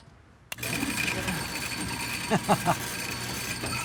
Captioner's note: whirring